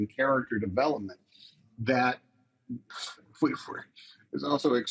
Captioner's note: chuckles